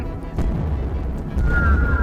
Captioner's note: very large footsteps